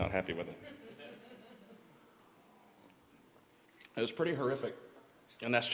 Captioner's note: laughter